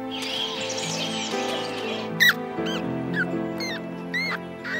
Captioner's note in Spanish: el ratón rechina